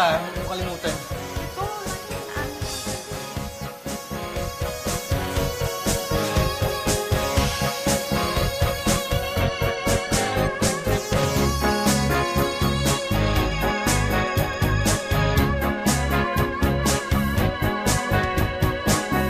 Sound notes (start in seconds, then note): 10.1 exhales